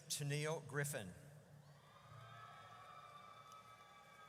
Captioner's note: audience cheers